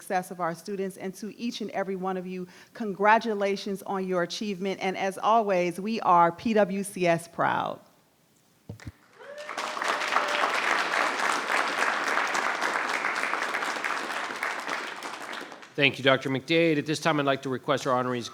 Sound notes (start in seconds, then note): 8.8 applause